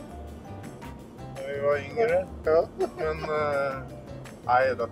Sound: giggles

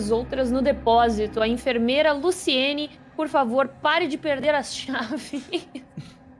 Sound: chuckles

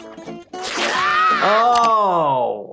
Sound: Spongebob screams

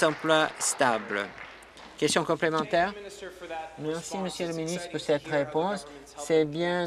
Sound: applause

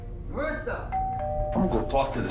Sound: doorbell rings

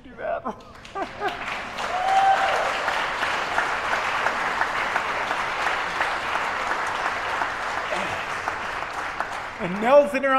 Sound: crowd applause

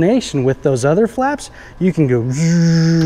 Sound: imitates whirring

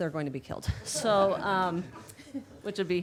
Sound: all chuckling

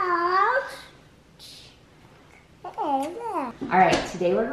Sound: little boy mumbling

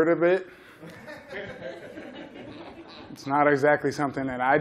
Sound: laughter

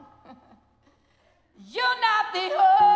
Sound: laughs

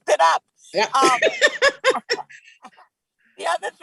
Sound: laughs loudly

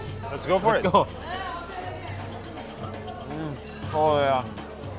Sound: crowd chattering

